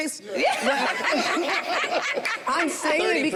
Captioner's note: group laughs